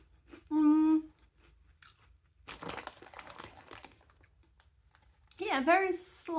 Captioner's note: none